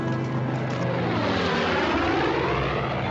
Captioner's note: airplane engine whirs